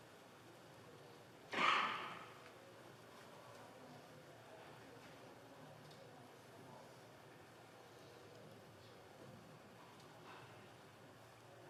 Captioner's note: moment of silence